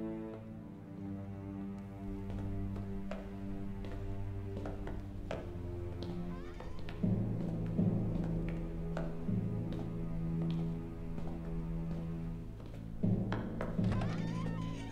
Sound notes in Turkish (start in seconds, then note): 0.0 Ayak sesleri; 6.0 Kapı gıcırtısı sesi; 8.7 Ayak sesleri; 13.9 Kapı açılma sesi